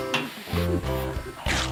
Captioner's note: blows on it